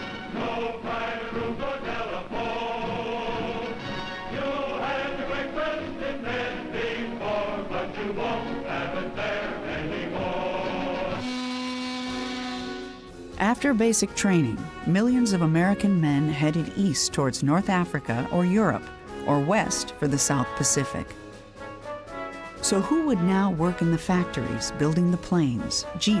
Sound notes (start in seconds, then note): 11.2 ship horn blasts